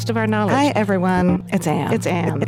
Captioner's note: graphics fuzzing